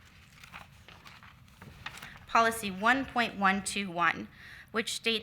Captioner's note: shuffles papers